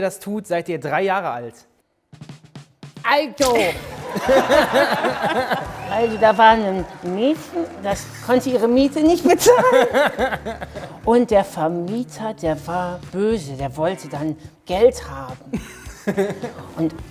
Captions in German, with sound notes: (Trommeln) Also ... (Lachen) Also, da war ein Mädchen, das konnte ihre Miete nicht bezahlen. Und der Vermieter, der war böse. Der wollte dann Geld haben. (Lachen)